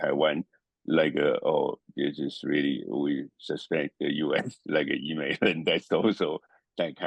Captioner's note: laugh